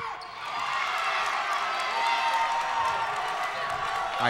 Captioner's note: crowd cheering